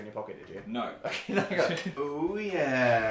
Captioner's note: both laugh